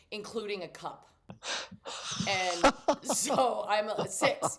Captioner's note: laughs